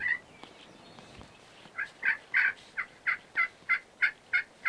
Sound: turkey yelping

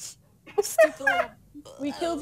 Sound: bar laughs

